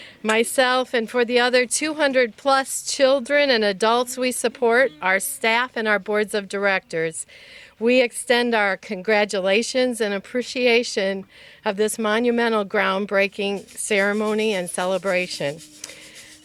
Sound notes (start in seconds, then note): none